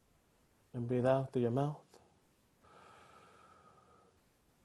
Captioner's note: exhales